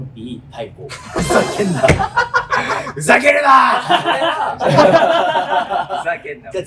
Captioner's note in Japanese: 笑い声